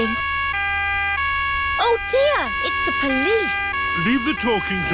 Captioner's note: siren wailing